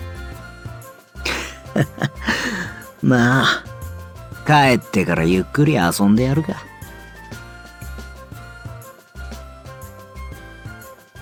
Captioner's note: laugh